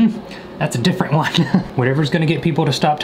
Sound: laughing

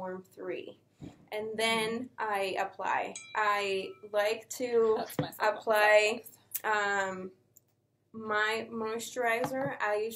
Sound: phone dings

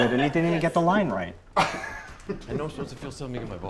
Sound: laughs

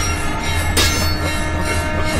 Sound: clanging

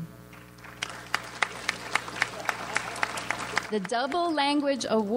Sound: audience applauds

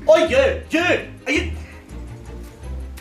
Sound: sighs

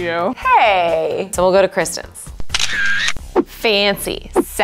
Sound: camera flashing

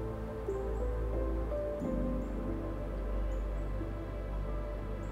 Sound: wind blowing

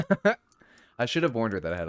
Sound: laughing

